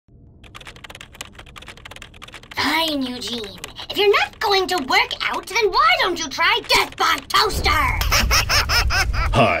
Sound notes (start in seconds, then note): 0.4 clicking of keys; 7.8 laughs diabolically